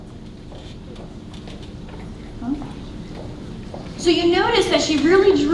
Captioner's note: footsteps clacking